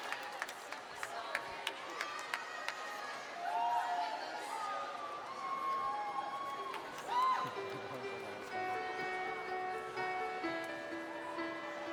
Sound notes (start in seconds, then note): 2.5 people chattering and cheering; 7.6 serene music